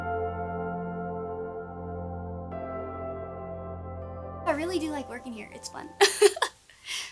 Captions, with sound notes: - I really do like working here, its fun. (laughs)